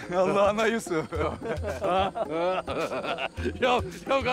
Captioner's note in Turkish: Gülme sesleri